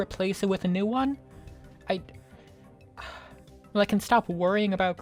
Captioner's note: sigh